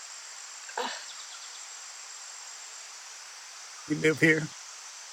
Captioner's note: Gunner groans